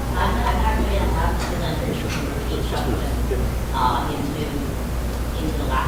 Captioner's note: audience member speaking softly